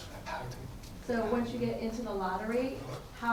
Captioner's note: attendee Through Translator